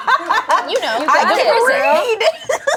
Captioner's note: woman in brown sweater laughing